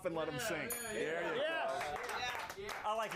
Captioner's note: bell rings